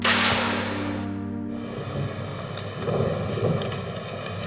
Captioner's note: steam hisses